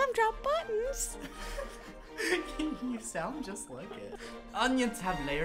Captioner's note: laughing